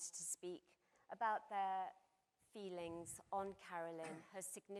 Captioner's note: coughs